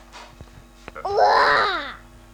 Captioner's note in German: Schrei